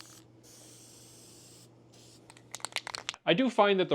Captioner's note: spraying